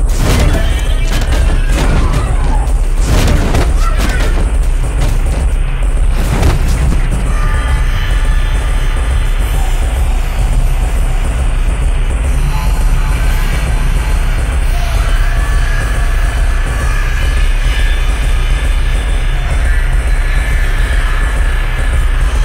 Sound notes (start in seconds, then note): 0.0 banging and knocking while hissing and growling; 8.0 Chica roaring